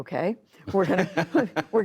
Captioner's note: laughter